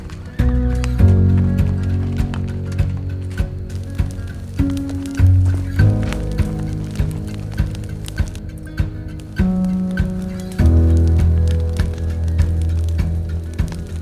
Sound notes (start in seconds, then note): 4.2 fire crackles